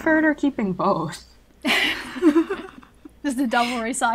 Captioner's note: hosts laugh